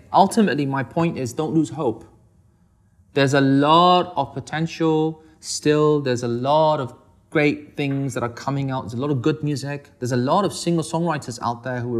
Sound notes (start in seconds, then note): none